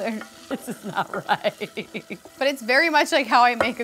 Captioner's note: laughs